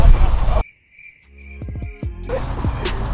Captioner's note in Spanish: Grillos sonando; música lenta de hip hop